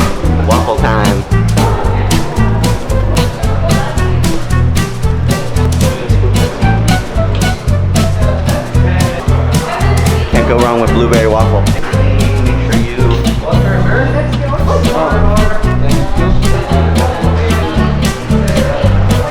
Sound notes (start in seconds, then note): 2.2 people talking ambience